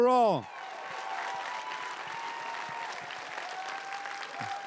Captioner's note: crowd cheering and applauding